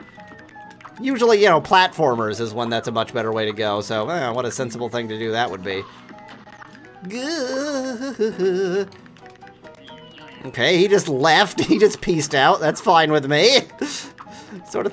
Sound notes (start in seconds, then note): 7.0 panicked groans